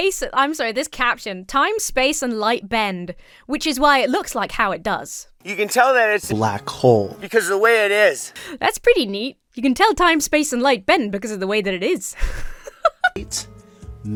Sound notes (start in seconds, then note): 6.4 disembodied Voice; 12.1 laughs